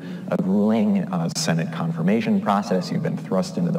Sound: none

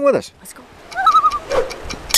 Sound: loon call

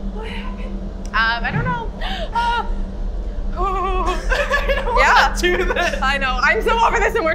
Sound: tittering; nervous laughter

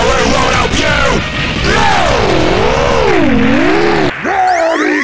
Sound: robotic Distortion

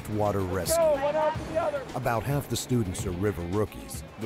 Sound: voiceover

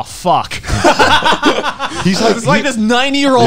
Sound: laughing

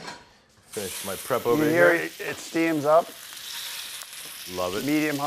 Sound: pork sizzling

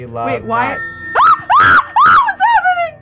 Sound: screams

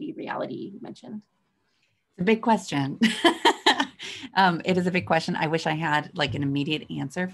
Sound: laugh

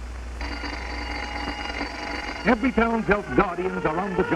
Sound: bell ringing

